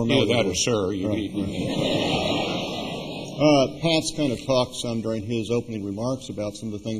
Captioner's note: laughter